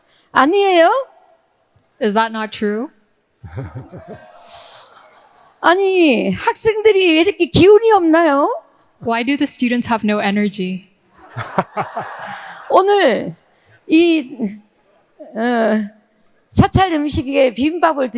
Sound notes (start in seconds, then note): 0.4 speaking in foreign language; 5.7 speaking in foreign language; 11.2 all laughing; 12.8 speaking in foreign language